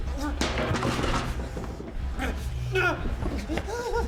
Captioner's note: screaming